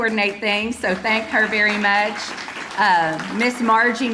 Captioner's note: audience applauding